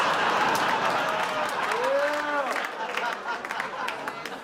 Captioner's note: audience laughs